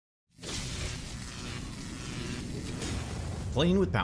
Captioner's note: electricity zapping